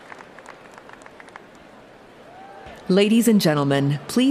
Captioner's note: applause